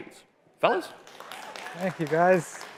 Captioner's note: applause